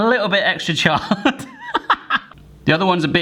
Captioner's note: laughing